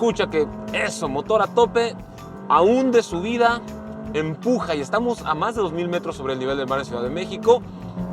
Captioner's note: engine revving